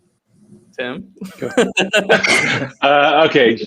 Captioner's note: team members laughing